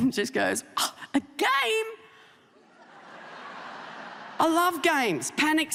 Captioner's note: audience laughing